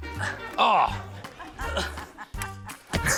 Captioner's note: groans